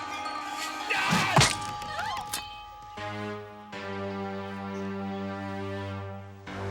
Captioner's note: ladies screaming; man yelling